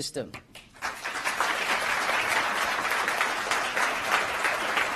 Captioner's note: applause